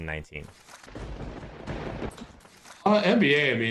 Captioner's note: lightning strike